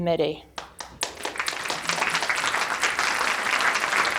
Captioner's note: audience applauding